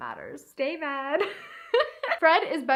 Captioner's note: laughs